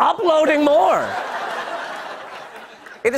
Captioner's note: laughter